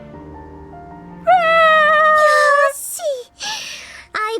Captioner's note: makes crying noise